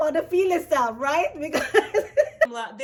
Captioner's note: laughs